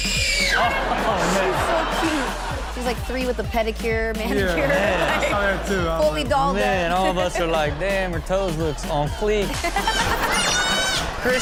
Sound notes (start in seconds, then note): 0.6 audience laughs; 4.2 Chanel laughs; 9.4 Chanel laughs